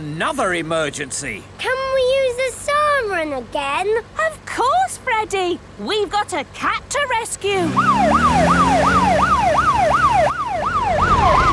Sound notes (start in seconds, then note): 7.6 siren